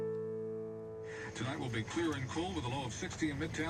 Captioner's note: radio Voice